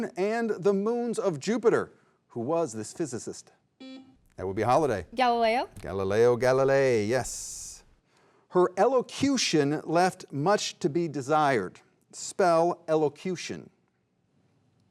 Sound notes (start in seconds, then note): 3.8 beep